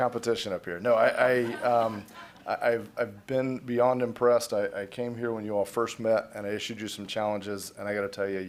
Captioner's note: laughter